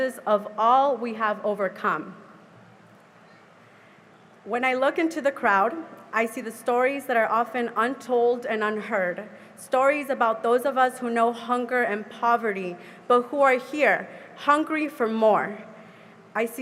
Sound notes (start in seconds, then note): none